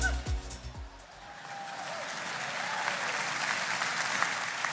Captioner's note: audience applauding